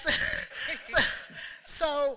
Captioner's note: laughter